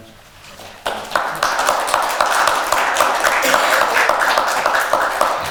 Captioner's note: audience applauds